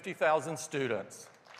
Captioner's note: applause